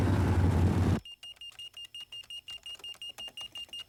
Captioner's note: beeping